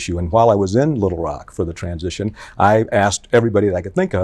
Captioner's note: none